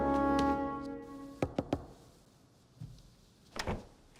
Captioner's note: knocks